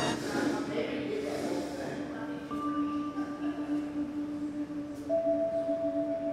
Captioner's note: people chattering; gentle quiet music